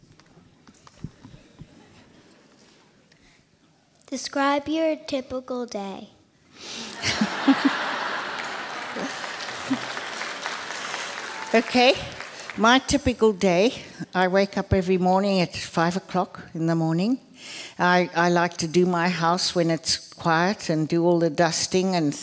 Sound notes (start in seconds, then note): 6.9 laughter; 9.5 applause